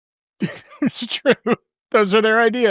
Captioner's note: chuckling